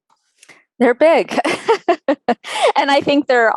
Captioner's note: laughing